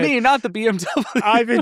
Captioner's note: laughs